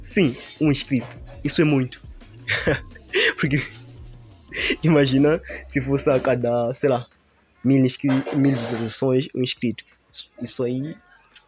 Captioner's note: laughs